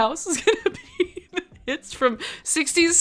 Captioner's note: laughs